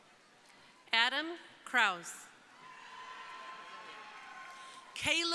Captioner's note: crowd cheering